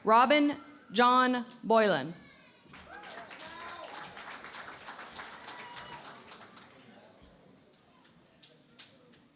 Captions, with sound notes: Robin John Boylan. [ Applause ]